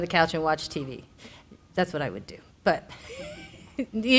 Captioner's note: laughs